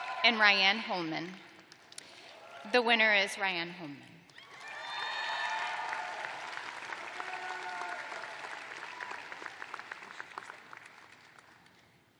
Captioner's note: cheers and applause